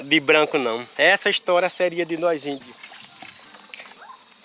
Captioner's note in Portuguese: Canto de pássaros, água sendo escorrida